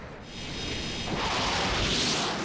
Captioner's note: whirring